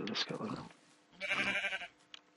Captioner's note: sheep bleating